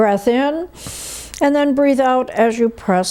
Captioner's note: inhales